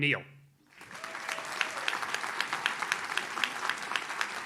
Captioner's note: audience claps